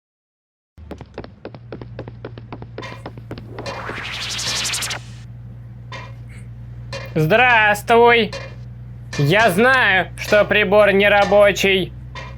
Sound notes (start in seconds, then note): 0.7 hammer hits a metal surface; 0.7 teleportation rustle